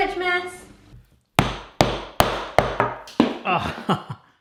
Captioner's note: banging